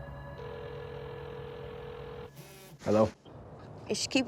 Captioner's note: phone ringing